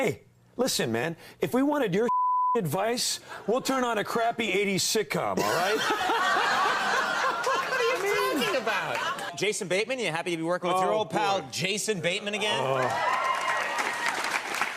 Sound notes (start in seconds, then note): 7.1 laughing; 13.7 groaning